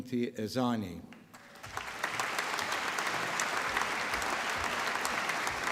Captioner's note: applause